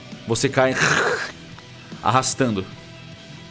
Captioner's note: grind